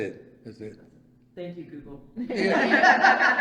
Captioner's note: all laugh